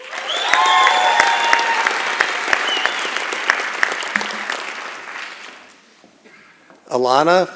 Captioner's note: applause and Cheering